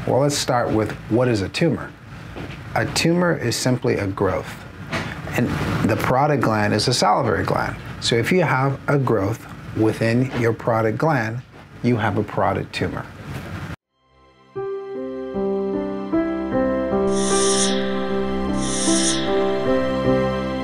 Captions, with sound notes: Well let's start with what is a tumor? A tumor is simply a growth. And the parotid gland is a salivary gland. So if you have a growth within your parotid gland, you have a parotid tumor. (gentle music) (logo whirring)